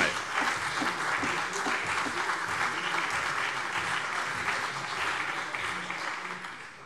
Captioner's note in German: Beifall CDU und BÜNDNIS 90/DIE GRÜNEN